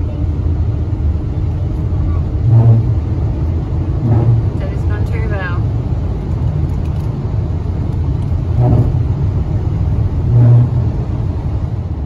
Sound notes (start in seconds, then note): 7.1 bump, bump